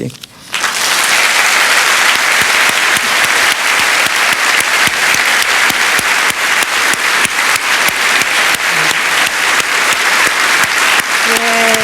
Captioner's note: applause